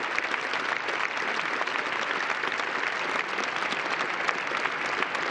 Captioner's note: applause